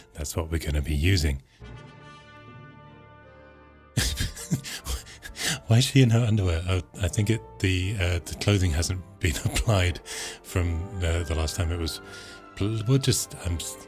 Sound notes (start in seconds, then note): 1.6 dramatic sounds; 4.0 laughs